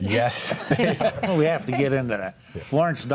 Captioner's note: group laughs